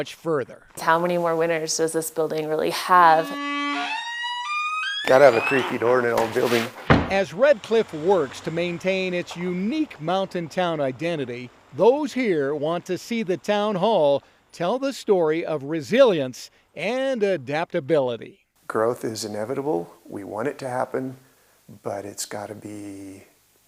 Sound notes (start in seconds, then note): 3.3 door creaking; 7.4 door thudding